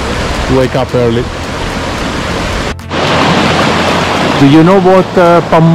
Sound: water flowing

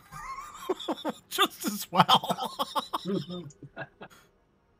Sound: laugh; laughs

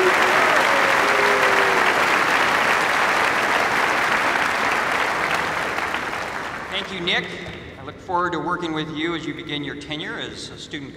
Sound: cheers and applause

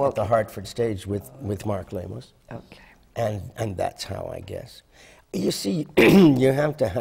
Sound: coughing

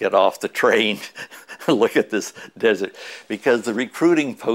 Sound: chuckle

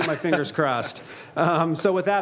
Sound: laughter

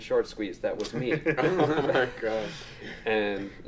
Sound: group laughs

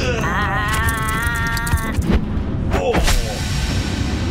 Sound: McKraken calls out

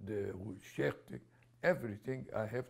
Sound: non-english

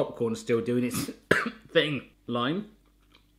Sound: cough

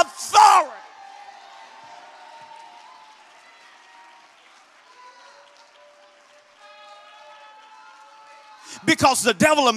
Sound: congregation shouts and applauds

